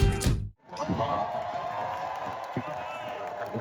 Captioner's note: applause